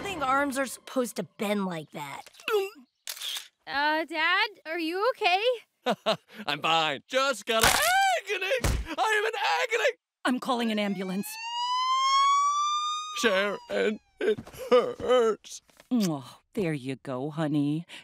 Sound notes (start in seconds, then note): 10.6 siren wailing